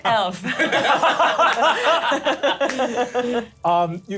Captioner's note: laughter